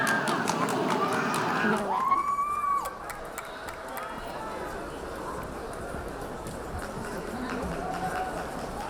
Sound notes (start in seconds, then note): 2.2 spectator cheering